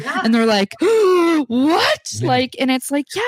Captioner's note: gasps